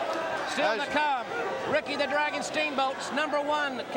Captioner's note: crowd cheering